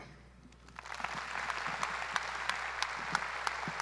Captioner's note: audience applauds